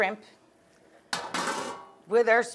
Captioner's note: pot clangs